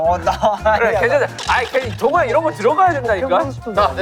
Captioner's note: arguing